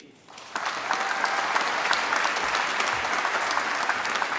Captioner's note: applause